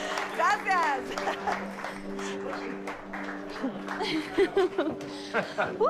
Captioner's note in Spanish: Risas